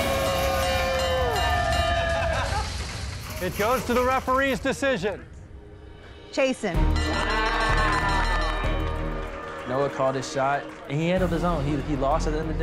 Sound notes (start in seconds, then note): 0.0 crowd cheering; 0.0 bell dinging; 2.0 laughs; 6.9 bell dings